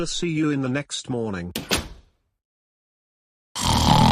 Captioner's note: door closes; kids snoring